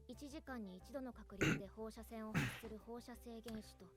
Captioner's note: awkwardly clears throat again